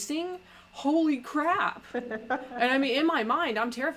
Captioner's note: laughs